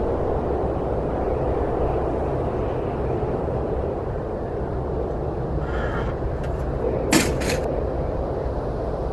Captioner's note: wind howling